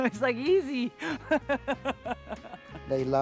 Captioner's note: laughing